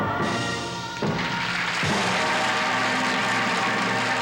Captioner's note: cheering